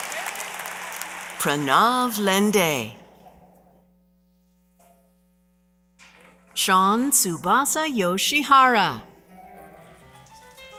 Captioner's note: applause